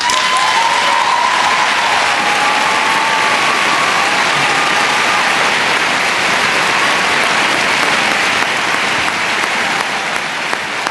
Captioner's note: applause